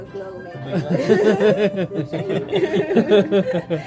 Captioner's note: all laugh